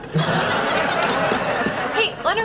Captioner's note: laughing